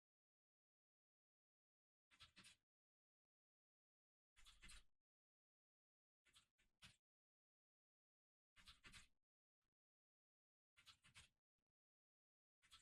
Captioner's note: typing sounds